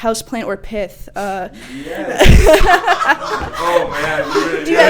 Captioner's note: laughs